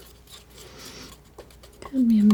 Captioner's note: scratching